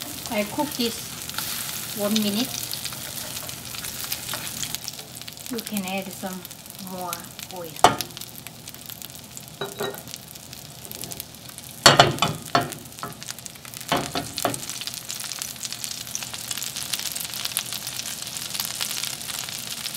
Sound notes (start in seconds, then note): 8.6 sizzling